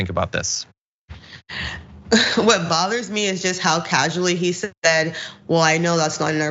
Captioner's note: laugh